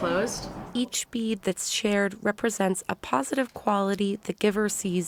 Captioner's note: voice-over